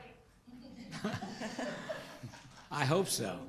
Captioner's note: group laughter